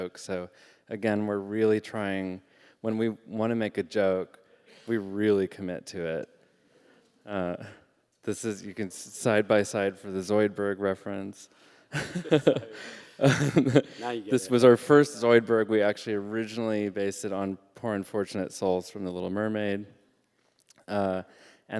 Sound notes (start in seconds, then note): 12.0 laughing